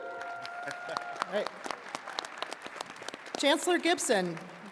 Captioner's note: attendees cheering and clapping